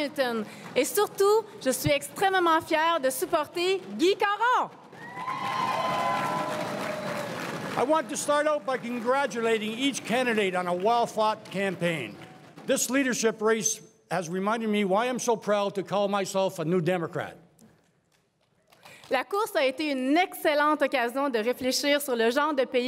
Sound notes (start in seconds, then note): 4.8 crowd cheering and applauding